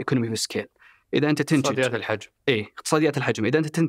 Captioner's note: in Arabic